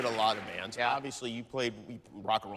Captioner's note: cheers and applause